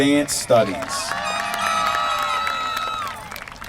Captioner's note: applause